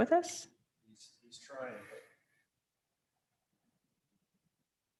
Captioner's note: faintly speaking